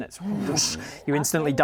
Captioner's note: whoosh